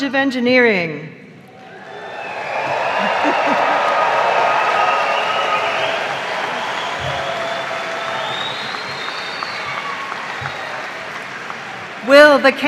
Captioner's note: cheers and applause